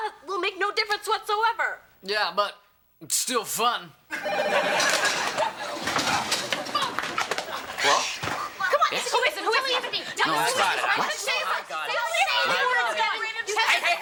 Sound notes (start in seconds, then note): 4.1 phone ringing; 4.2 chairs clatter; 10.0 overlapping chatter